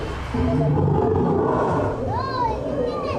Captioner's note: dinosaur sounds